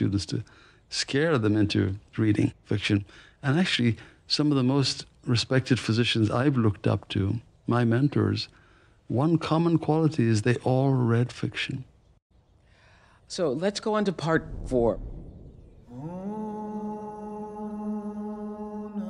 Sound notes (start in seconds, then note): 15.8 distant chanting